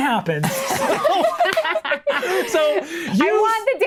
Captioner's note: group laughing